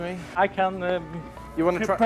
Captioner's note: speaking in foreign language